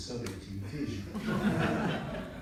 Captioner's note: laughter in audience